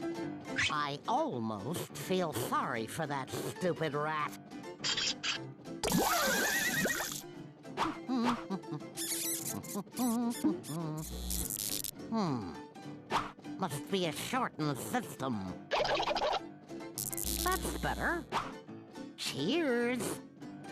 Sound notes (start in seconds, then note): 8.0 humming; 8.9 rat squeaking; 11.0 buzzing